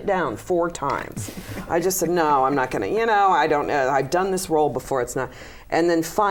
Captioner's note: laughter